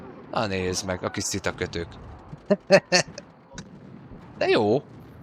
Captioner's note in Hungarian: nevetés